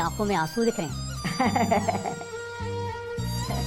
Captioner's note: laughing